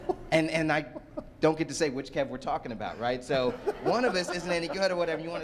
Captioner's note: laughter; laughter